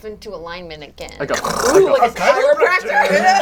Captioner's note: imitates bones cracking